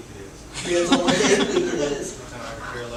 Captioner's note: laughter